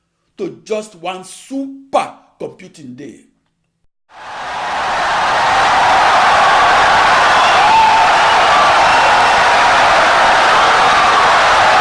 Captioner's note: wild applause and cheering for 17 seconds